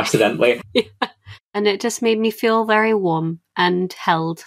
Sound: laughing

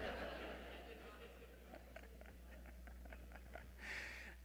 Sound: audience laughing

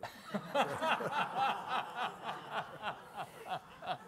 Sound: all laughing

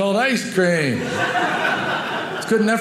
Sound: audience laughing

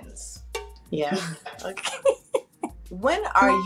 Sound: laughs

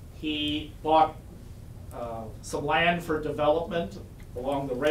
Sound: none

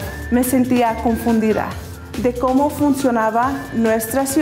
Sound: speaking Spanish

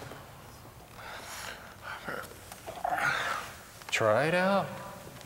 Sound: exhales; sighs of relief

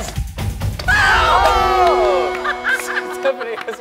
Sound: all cheering; laughing

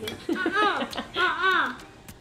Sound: laughter

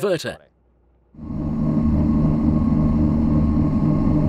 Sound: boat running

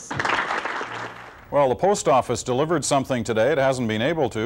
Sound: applause

